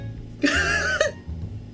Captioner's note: somewhat horrified laughter